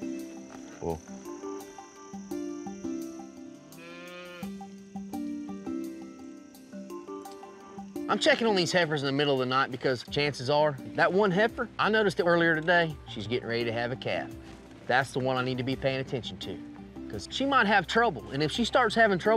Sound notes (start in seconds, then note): 3.7 cows mooing